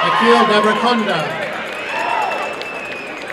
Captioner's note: applause and cheering